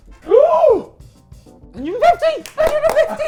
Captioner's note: compelling music playing; gasping